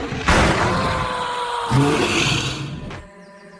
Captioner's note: Perez screaming